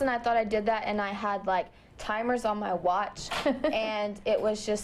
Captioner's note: laughter